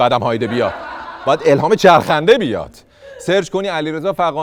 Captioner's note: laughter